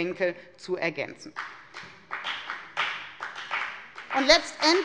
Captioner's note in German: Beifall bei der FDP